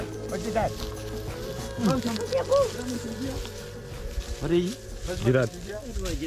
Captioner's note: villagers speaking in a foreign language